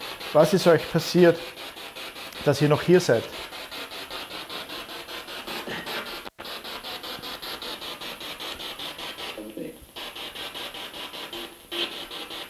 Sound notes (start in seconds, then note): 2.5 noise of the spiritbox in the background